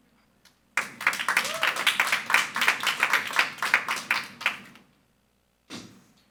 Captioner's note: audience cheering and applauding